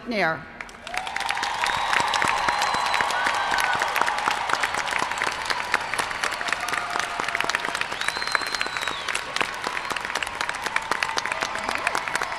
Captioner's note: applause